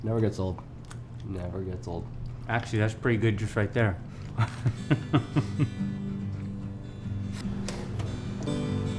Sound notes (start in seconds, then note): 4.3 laughing